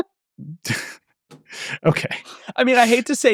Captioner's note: laughing